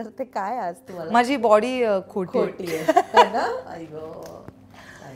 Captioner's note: Laughs